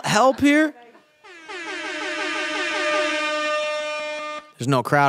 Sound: air horn

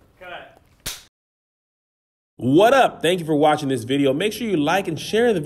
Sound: clapboard clicks

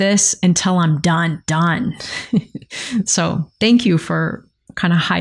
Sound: laughs

